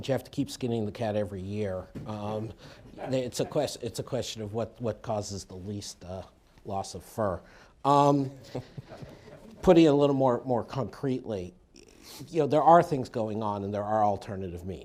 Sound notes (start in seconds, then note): 8.3 laughter